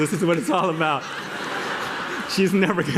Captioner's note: laughter